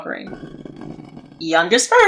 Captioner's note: scraping of metal against stone